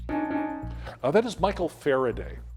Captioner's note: timer beeping